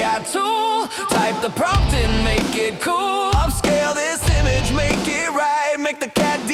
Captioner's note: sing-song